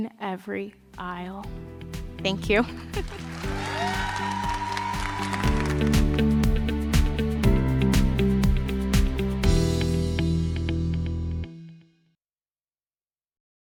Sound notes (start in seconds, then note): 6.9 cheers and applause; 8.9 up-tempo music